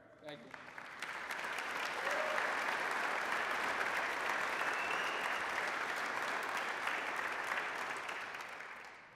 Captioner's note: applause